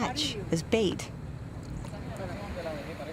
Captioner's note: speaking spanish